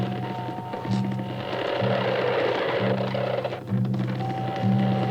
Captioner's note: cart wheels creaking louder